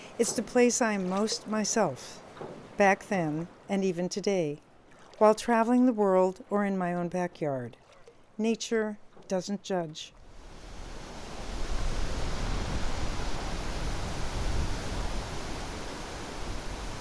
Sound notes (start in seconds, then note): 11.7 water splashing